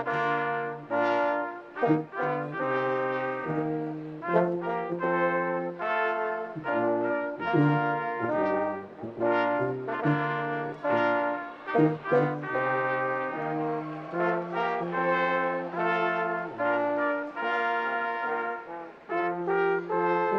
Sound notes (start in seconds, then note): 10.9 attendees cheering; 17.5 classical music